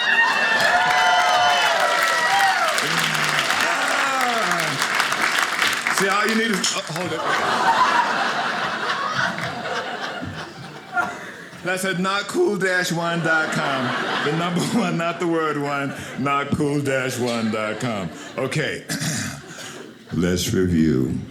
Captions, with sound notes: (audience applauding) See, all you need is, hold on. (audience laughing) Did I say notcool-1.com, the number 1 not the word one, notcool-1.com. Okay, let's review.